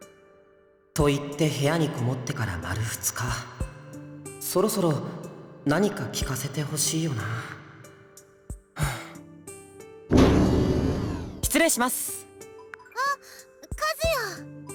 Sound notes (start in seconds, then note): 8.8 sigh